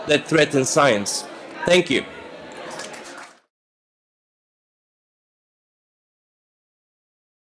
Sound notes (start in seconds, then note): 2.6 audience applauding